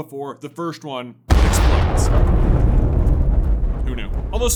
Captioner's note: boooooooooooooom